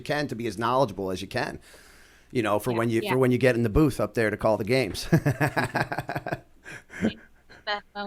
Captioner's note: laughter